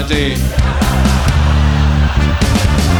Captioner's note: audience laughing; rhythmic music continues